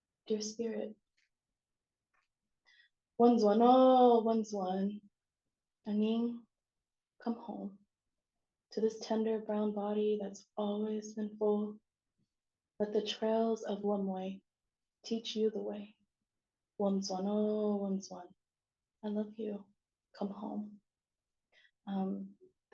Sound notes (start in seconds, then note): 2.7 non-english; 16.7 non-english